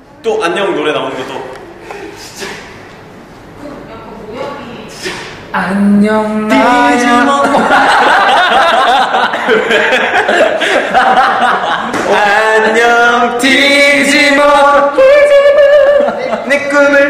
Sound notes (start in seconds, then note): 10.9 laugh out loud